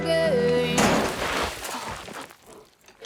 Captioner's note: footsteps skidding in gravel